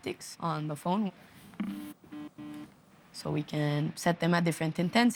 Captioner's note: phone vibrating